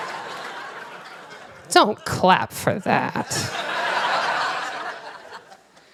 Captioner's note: laughter